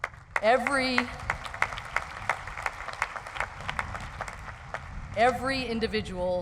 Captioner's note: crowd applauds